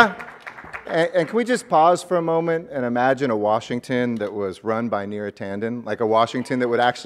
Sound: applause

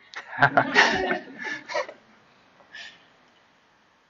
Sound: laughing

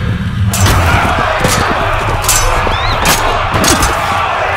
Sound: swords clanging

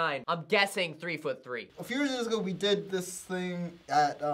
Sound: none

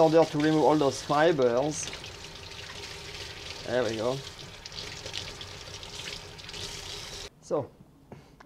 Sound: running water

